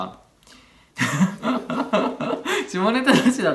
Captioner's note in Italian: risata gretta e provinciale